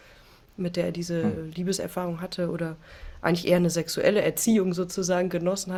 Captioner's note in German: schnauben